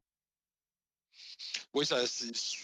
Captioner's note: speaking French